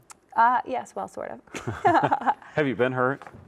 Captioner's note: both chuckle